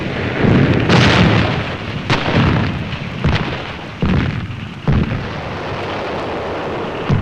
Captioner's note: explosions booming; guns firing